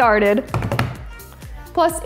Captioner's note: counter thuds